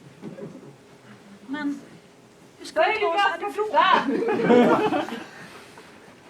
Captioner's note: laughter